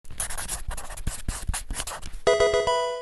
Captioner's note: pen writing